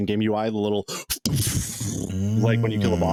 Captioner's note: blowing air